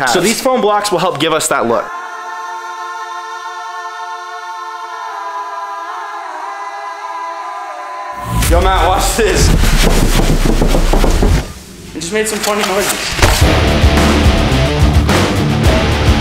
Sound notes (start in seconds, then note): 2.0 acapella singing; 9.4 car roof thumping; 13.3 rock music